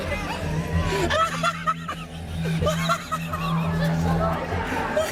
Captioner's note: band members laughing